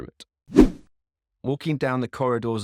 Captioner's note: screen whooshing